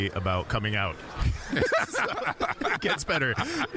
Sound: both laughing

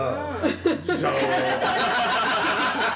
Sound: laughter

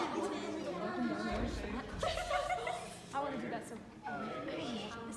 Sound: background talking

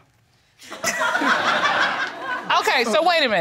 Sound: audience laughing

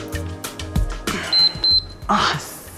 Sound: timer beeps

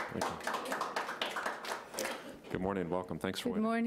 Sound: attendees applauding

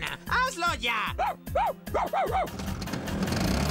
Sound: barking

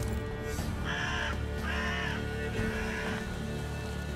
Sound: crows cawing

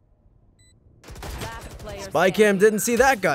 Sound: gun firing

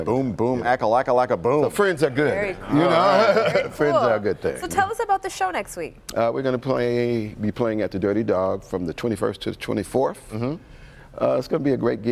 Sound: laughter

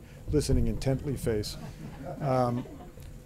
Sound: laughter

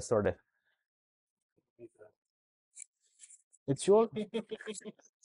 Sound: silence

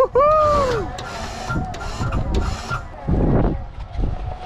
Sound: wind blowing

